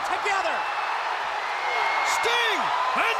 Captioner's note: audience cheering